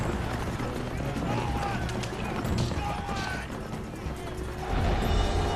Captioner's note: yelling